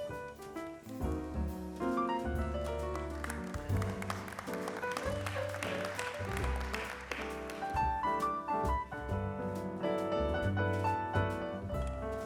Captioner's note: applause